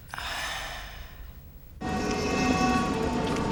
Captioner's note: Sarah sighs